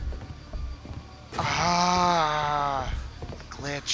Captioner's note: groans of glitchy defeat